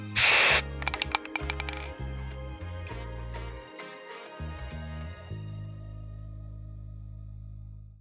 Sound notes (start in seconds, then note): 0.0 paint spraying; 0.0 spray can rattling